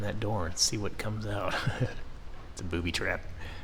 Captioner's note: chuckles